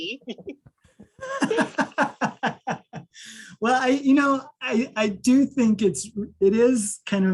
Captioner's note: laughs